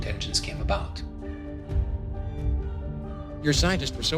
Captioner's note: soundbite of film, "jurassic park"